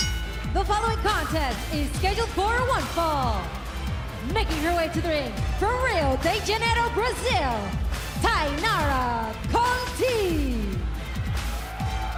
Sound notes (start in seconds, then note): 0.0 bell ringing